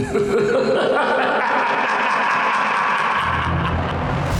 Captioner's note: evil laughter